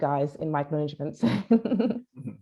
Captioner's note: laughs